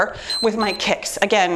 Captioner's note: timer beeps